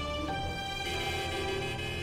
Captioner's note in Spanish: Suena la bocina